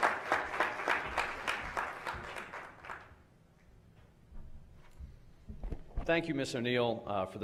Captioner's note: applause